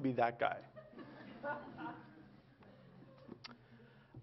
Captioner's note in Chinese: Laughter; 笑聲